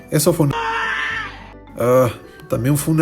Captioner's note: aaah! !!